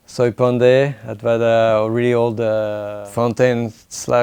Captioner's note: speaking in foreign language